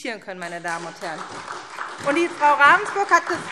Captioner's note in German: Beifall SPD